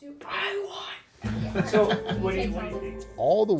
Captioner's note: laughing